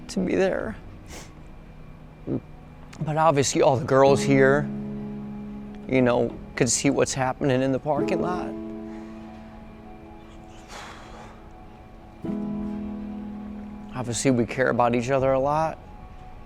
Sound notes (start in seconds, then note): 10.2 exhales; 10.8 gentle music